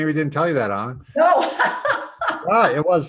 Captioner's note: laughs